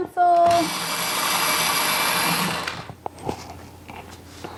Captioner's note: sharpener whirring